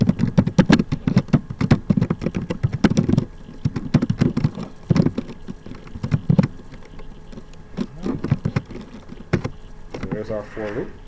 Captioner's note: typing sounds